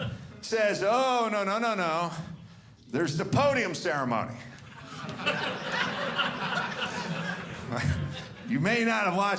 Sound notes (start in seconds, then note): 4.6 audience laughing